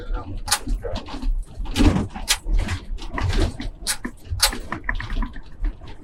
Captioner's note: sounds of heavy movement